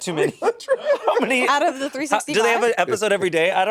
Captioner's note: Monét laughing